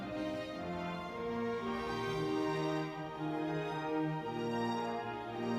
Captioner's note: crowd cheering